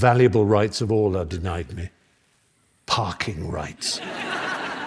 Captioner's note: laughter